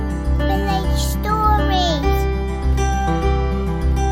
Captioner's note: child's voice